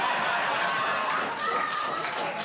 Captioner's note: laughter and applause